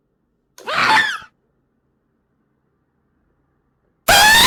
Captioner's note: ghast screaming